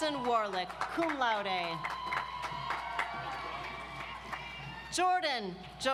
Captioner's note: audience applauds